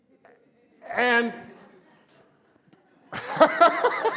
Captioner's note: laughs